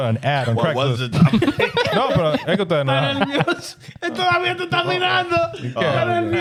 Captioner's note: laughing; speaking In Foreign Language